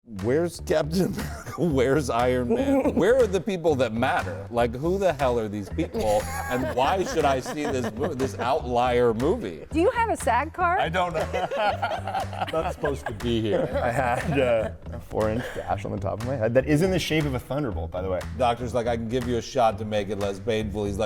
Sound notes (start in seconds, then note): 11.0 all laughing